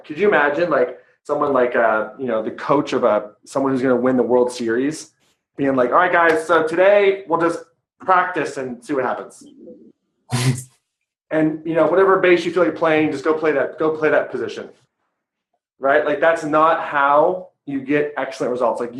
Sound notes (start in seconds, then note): 9.8 laughing